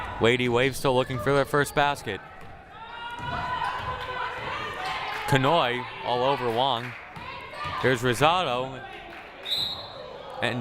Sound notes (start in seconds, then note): 2.7 crowd cheering; 9.4 whistle blaring